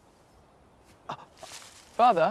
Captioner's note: Lord Bridgerton gasps